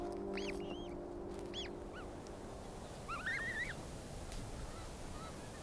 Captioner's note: gosling chirps